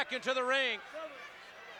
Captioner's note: applause